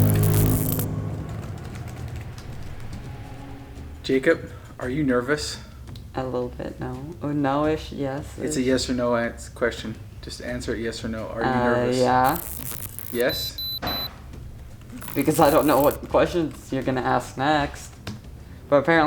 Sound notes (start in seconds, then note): 0.0 ominous tone; 14.3 detector beeps